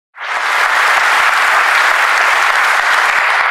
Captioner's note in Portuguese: Aplausos